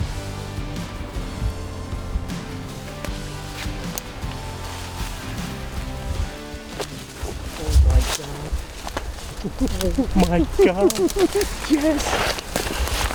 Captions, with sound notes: (twigs snapping) Oh my gosh. (laughing) Oh my gosh. Jess!